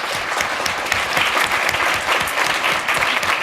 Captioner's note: applause